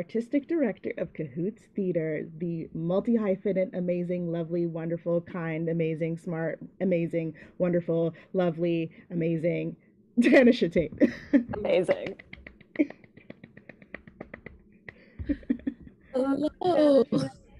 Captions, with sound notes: the Artistic Director of Cahoots Theater, the multi hyphenate amazing, lovely, wonderful kind. Amazing, smart, amazing, wonderful, lovely, amazing Tanisha Taitt. - Amazing. (both clapping) - Hello.